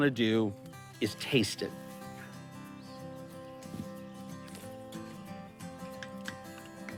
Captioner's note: light guitar music; birds chirping